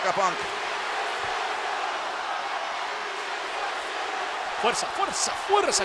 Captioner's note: applause